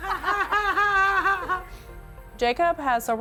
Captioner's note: laughs